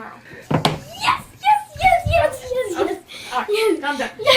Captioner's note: laughing